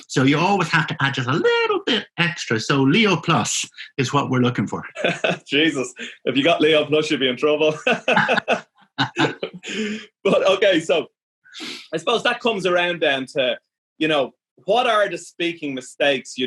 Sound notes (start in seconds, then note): 4.9 laughs; 7.7 both laughing; 7.7 laughing